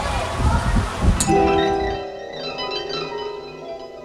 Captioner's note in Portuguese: Som fantasioso de magia